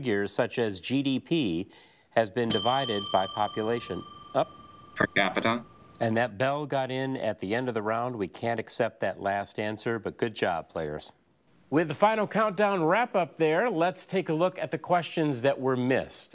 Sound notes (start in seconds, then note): 2.5 bell dings